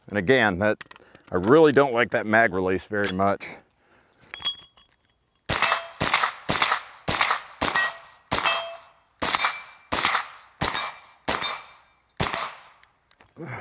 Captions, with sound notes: And again, I really don't like that mag release very much. (gun firing and hitting plate repeatedly)